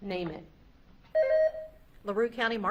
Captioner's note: beep buzzing